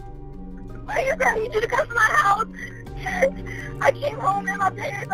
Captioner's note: sobbing